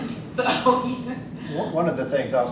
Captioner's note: laughs